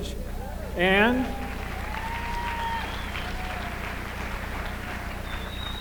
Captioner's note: applause